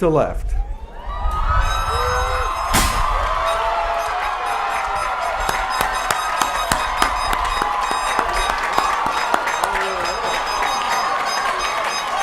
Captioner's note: applause, Cheering, Horns, and a loud Pop from the streamer cannons